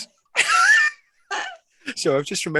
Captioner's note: laughing